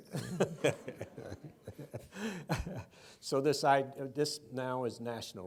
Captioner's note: laughs